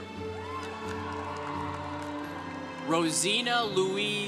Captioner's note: congregation cheering